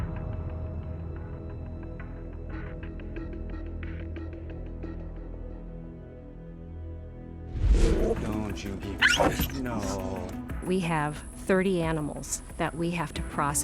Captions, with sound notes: Don't you nip. [yelp] No. We have 30 animals that we have to process.